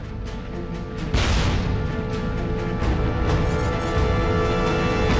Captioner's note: tank turrets firing